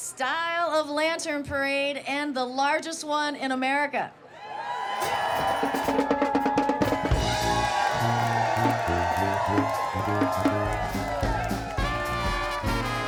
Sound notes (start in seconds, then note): 4.2 crowd cheers; 7.0 playful horn music